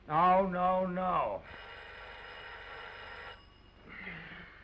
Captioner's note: phone ringing